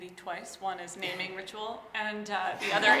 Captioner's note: audience laughing